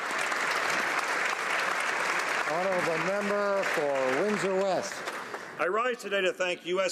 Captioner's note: applause